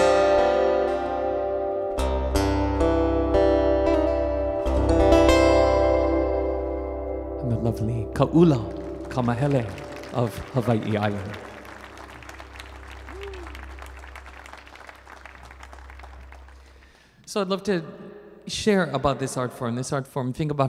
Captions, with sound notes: And the lovely of Kaula Kamahele of Hawaii island. (audience applauding) So I'd love to share about this art form.